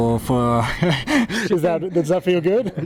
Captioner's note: both laugh